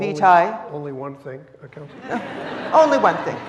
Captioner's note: audience laughing